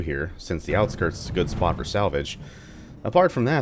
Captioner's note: thunder